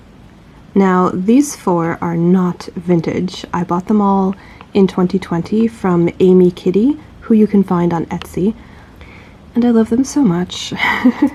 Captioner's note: chuckles